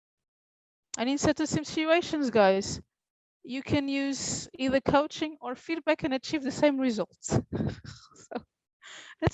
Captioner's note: laughs